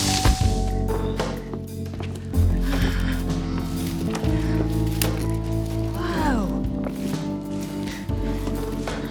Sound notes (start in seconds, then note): 2.9 sighs